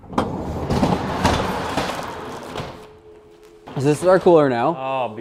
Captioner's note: cooler whirring